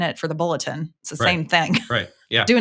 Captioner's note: chuckling